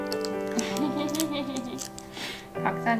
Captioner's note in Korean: 웃음